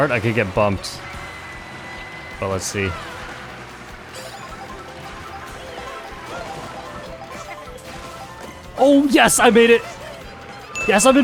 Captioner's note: laughs